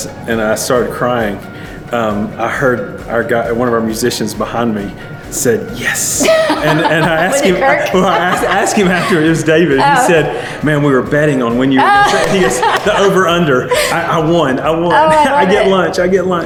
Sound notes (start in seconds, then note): 11.8 laughs loudly